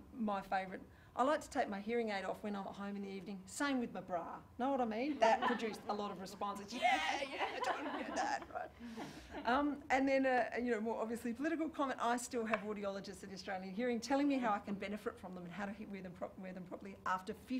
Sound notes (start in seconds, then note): 6.8 laughter